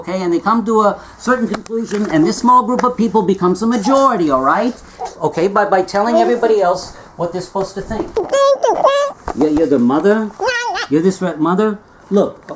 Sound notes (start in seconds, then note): 8.0 squeak squeak